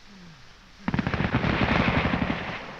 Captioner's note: firing continues